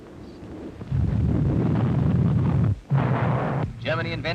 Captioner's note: explosions rumbling